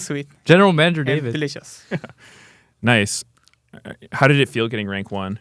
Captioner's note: laughs